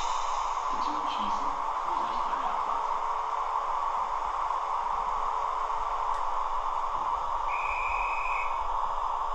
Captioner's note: conductor's whistle